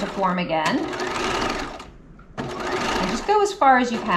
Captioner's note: sewing machine whirling